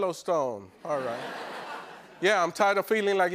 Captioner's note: laughter